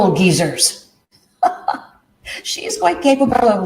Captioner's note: laughs